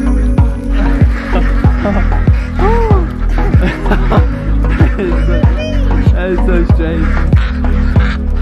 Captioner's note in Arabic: تضحك